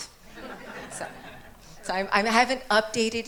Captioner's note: attendees laughing